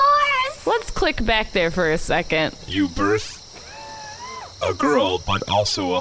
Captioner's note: crying; the crew makes surprised and bewildered noises; whirrs